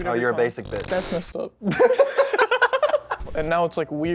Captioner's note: laughter